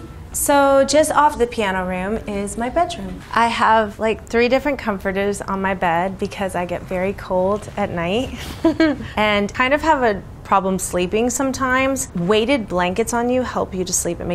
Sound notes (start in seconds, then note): 0.0 upbeat music; 8.3 chuckles